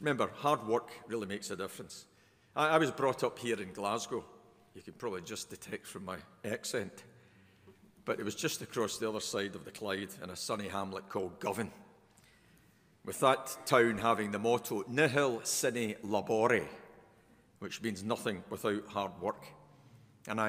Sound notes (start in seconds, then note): none